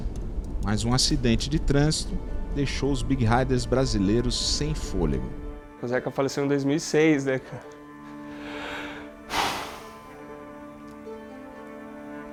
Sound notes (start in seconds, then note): 8.1 deep breath